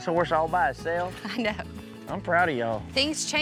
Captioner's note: chuckles